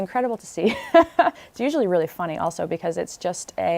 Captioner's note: laughter